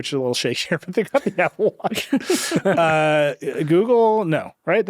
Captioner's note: chuckles